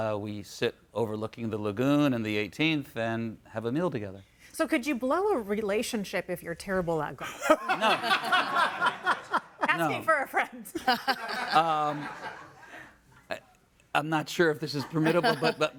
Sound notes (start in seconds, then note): 8.8 all laughing; 12.1 audience laughing